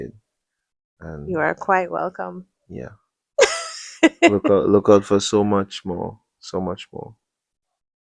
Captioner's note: laughter